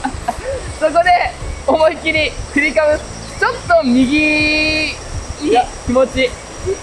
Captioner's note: laughs